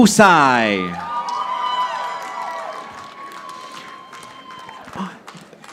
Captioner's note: audience applauding